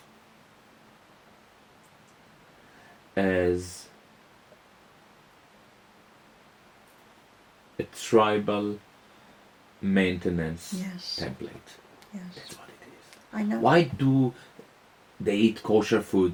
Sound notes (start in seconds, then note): 2.1 in a low voice